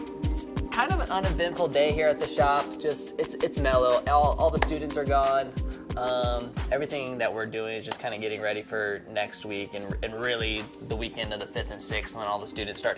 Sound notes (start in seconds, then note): none